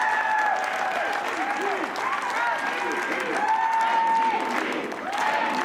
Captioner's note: cheering